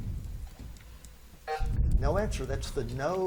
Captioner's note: buzzer buzzes